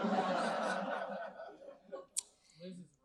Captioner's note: audience laughing